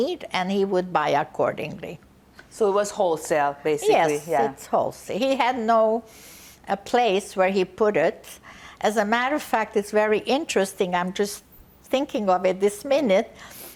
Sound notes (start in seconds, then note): none